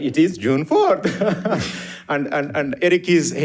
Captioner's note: participants laughing